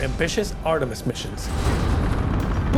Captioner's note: rocket blasting